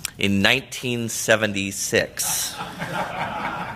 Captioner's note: laughter